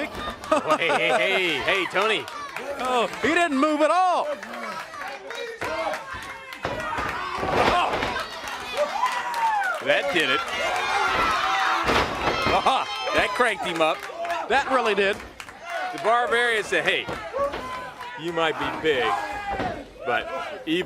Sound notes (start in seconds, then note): 5.2 crowd chatter; 12.8 crowd cheering